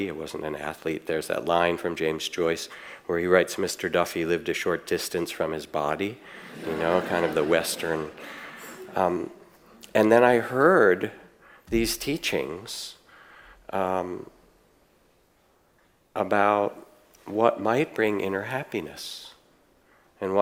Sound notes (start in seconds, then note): 6.1 audience laughs